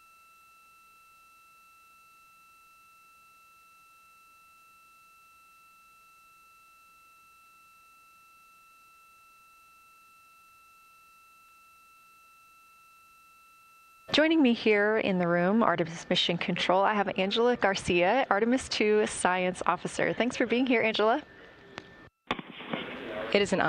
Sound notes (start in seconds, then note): 7.2 silence